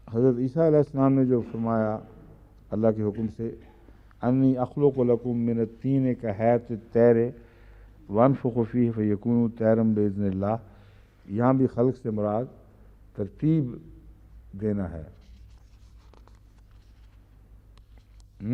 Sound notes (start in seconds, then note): 4.2 Arabic